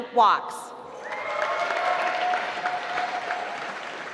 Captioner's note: applause